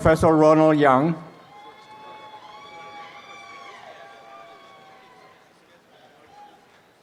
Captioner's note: applause and cheering